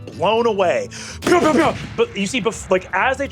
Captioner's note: mimics gunshots